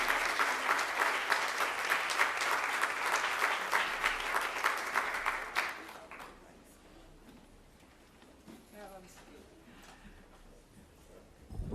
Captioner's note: applause